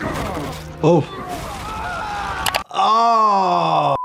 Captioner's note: fighter groaning; fighter shouting; screen clicking